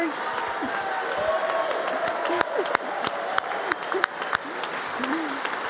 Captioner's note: congress applauding